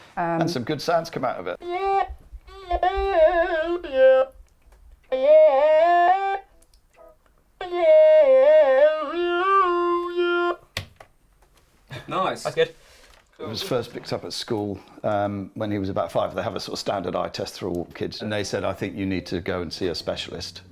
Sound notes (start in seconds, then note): 2.4 voice electronically modified by the Talk-box